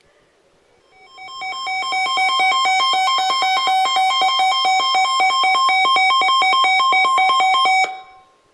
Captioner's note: warning alarm